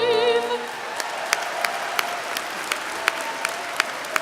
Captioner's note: applause